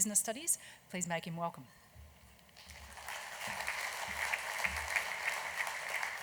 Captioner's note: applause